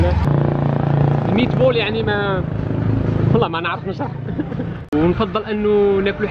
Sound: giggles

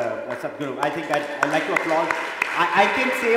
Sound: applause

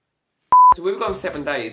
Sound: beep

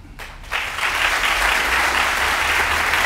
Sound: applause

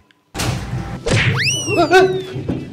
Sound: people scrambling

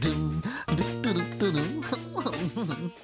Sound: Barney Hums

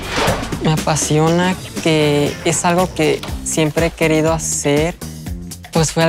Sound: speaking Spanish

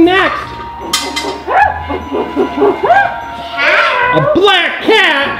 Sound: gorilla growling

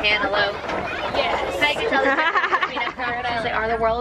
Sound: laughing; impressed

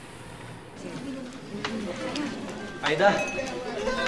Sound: people chattering

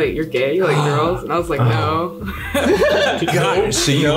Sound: laughs

